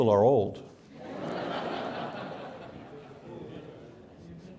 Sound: congregation laughs

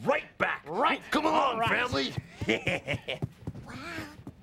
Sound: Theo chuckles

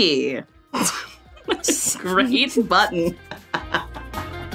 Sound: snickers

